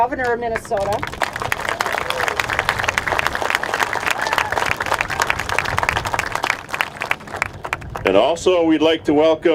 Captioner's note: applause